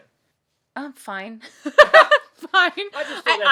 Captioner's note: laughs